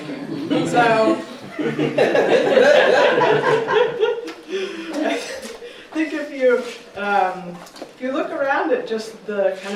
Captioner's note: laughter